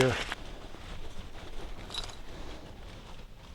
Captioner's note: digging